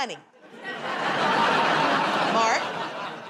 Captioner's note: laughter